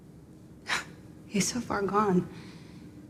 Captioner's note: Wendy sighing